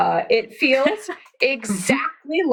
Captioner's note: laughs